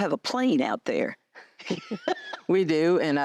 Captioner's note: laughter